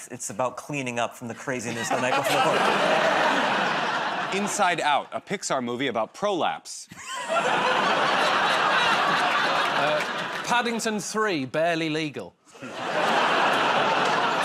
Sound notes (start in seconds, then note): 6.9 laughter; 12.6 laughter